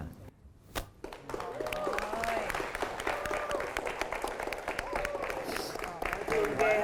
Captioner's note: applause